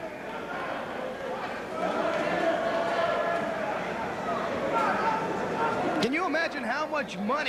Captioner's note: crowd chatter